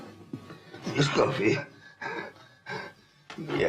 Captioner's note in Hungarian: nyögve